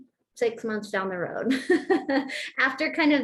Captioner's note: laughter